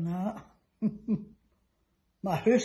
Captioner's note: laughs